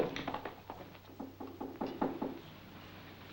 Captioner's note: knocking on door